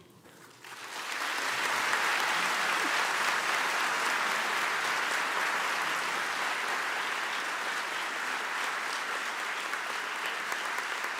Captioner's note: applause